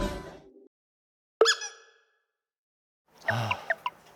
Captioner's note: Nattering with Nah